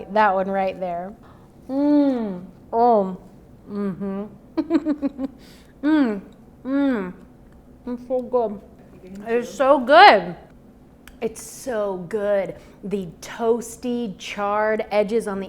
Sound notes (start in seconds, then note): 4.6 laughing